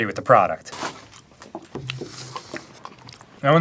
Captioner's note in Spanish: sonidos mojados de boca con crema de maní